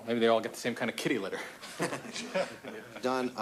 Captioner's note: laughter